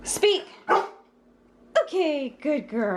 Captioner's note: bark